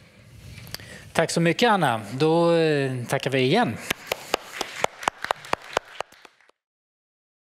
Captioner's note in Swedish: Applåder